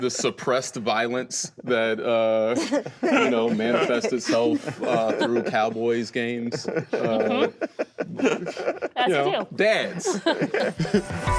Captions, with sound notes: The suppressed violence that manifests itself through Cowboys games. (laughing) - That's a deal. - You know, dads.